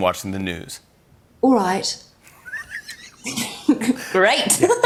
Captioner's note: laughter